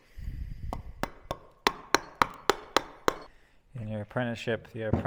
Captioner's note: metal hammering